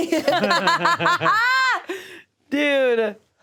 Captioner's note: all laugh